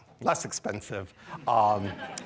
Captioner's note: laughter